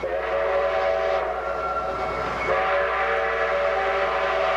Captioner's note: train whistles